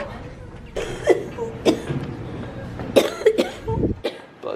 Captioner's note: coughing